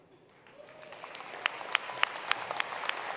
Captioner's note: applause